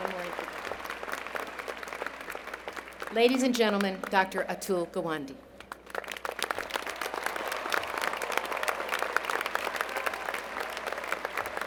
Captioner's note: applause; applause